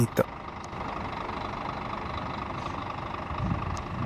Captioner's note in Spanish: sonido del bus yéndose